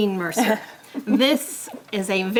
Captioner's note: laugh